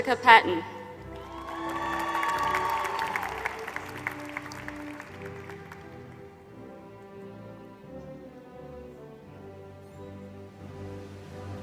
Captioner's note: applause